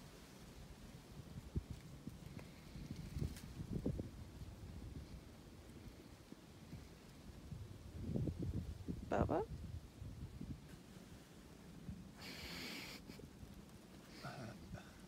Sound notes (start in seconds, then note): 14.1 laugh